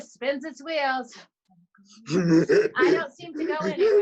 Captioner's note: laughing